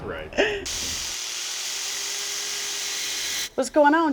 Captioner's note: laughs; power tools whirling